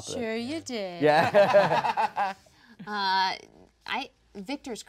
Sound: laughing

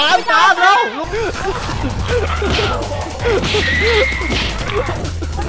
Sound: panting and laughing

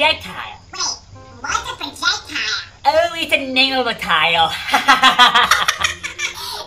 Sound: laughs

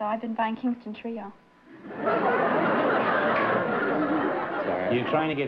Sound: laughter

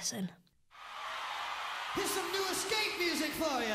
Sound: audience cheers

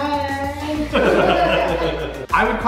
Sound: group laughing

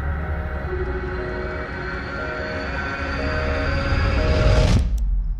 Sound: phone beeps

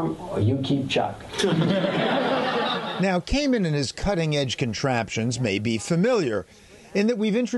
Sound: laughter

